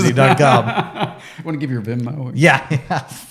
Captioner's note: laughing; laughing